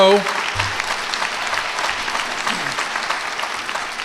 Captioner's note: applause